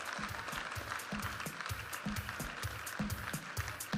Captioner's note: audience applauding; vibrant music